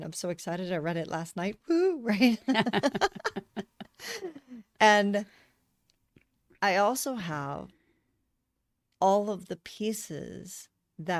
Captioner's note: laughter